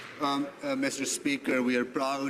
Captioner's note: some Applause